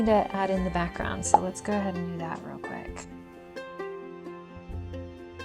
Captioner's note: popping sfx